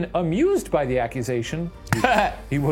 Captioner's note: laughs